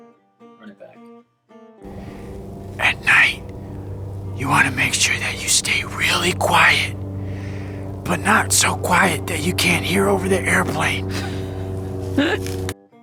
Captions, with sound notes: Run it back. (Whispering) At night you want to make sure that you stay really quiet, but not so quiet that you can't hear over the airplane! (laughs)